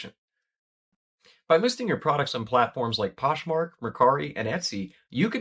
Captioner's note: voiceover